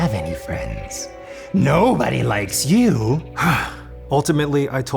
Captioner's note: growling; sighs